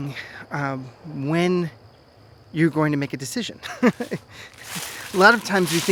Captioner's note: laughs